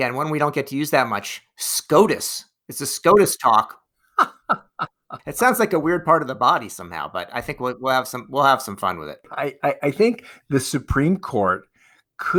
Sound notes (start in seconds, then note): 4.2 laughs